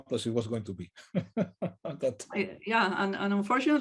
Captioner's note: laughs